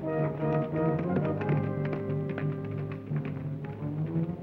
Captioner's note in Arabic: ضربات الحوافر